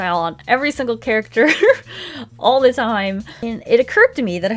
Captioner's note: laughs